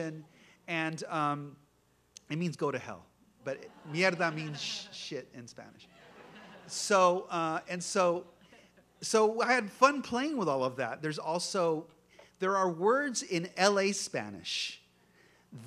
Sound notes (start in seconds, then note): 3.6 spanish